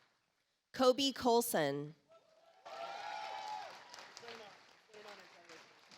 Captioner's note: audience applauds